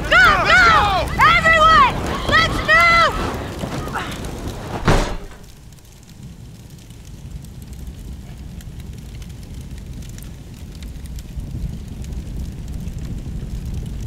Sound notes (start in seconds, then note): 3.6 door slams; 5.8 flames crackling